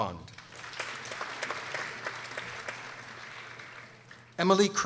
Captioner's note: people applauding